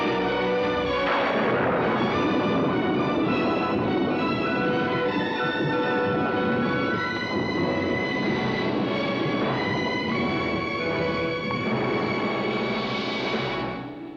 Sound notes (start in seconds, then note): 1.0 dramatic sentimental music; 1.0 thunder rolls; 4.8 dramatic music